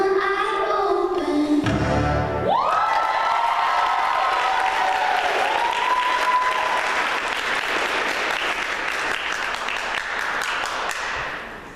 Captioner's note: applause